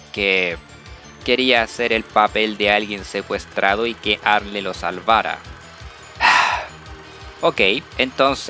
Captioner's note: sigh